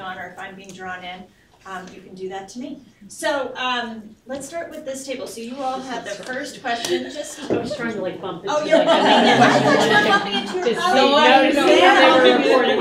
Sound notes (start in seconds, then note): 7.0 chatter; 8.6 laughter